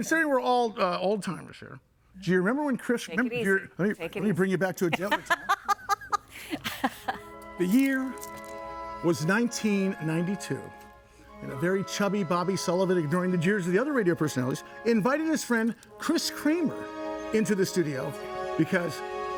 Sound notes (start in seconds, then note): 6.4 laughing; 7.6 gentle inspirational music